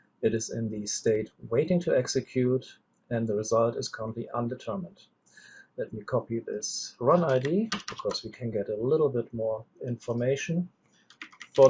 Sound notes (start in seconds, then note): 7.1 keyboard clicks